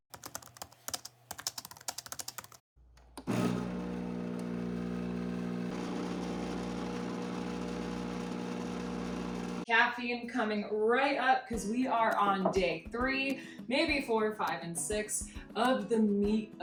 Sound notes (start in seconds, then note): 0.2 keys clacking; 3.2 coffee maker buzzing